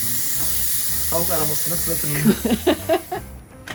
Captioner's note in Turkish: Gülüşmeler